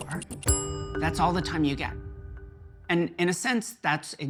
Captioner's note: bell dings